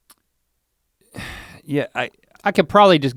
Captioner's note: sighs